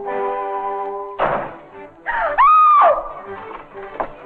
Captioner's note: door banging; screaming